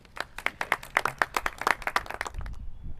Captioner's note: clapping